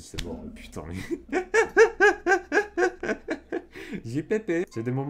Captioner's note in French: Rires